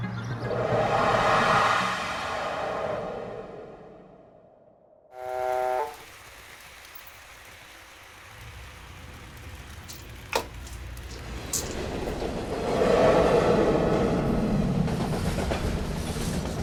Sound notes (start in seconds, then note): 0.4 air whooshing; 5.1 train horn blares; 9.6 pills rattling; 10.2 train rattling